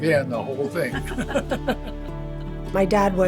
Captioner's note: both laughing